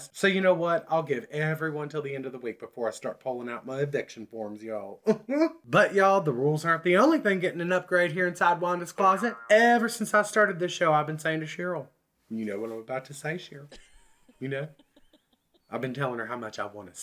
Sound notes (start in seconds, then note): 5.0 chuckles; 13.7 giggles